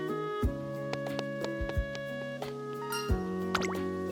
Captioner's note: pattering footsteps